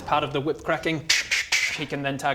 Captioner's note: tch tch tch